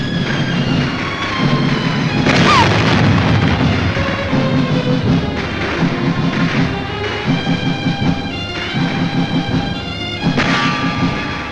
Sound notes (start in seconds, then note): 1.5 explosions booming; 8.1 soft dramatic music